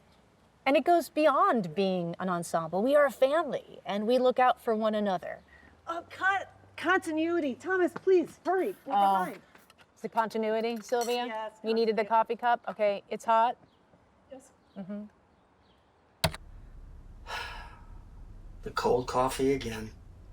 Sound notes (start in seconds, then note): 15.5 sighs; 16.2 key clicks